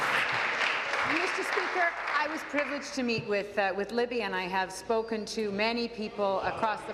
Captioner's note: applause